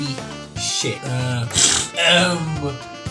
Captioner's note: thinking snort